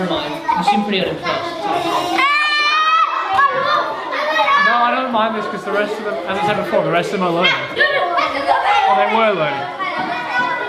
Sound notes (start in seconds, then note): 1.6 children screaming